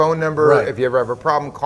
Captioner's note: laughing